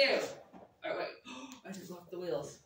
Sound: gasps

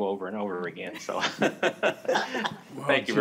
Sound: laughter

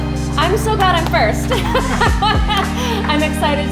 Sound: laughs

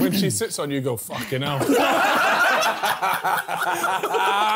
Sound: laughing

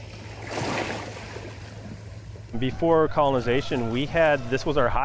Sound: waves crashing

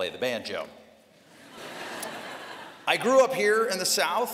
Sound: laughter

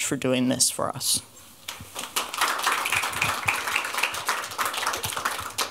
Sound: applause

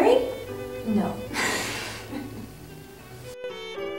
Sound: chuckles

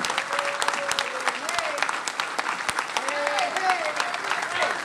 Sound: applause

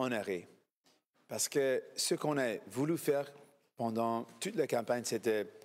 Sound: speaking FRENCH

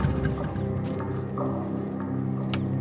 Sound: engine turns off

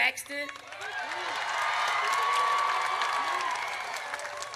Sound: audience cheers

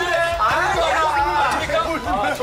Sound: tearful

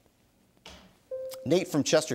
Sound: bell dings

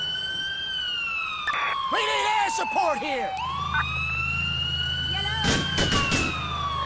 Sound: gunshots

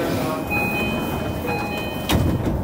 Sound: doors chime

